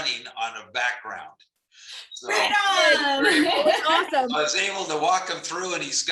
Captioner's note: laughter